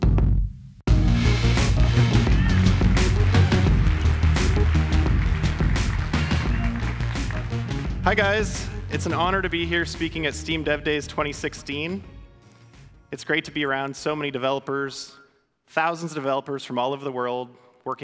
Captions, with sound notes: (audience clapping) - Hi guys, it's an honor to be here speaking at Steam Dev Days 2016. It's great to be around so many developers. Thousands of developers from all over the world